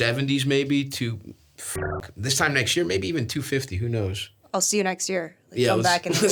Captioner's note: beeps